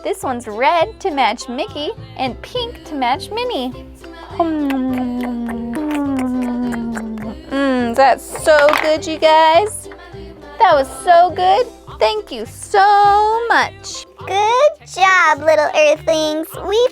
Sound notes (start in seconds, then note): 3.8 lip smacking noises